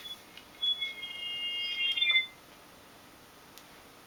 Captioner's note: hearing aid whistling